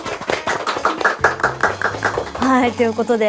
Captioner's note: applause